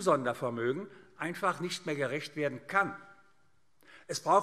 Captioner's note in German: none